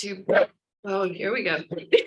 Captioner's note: bark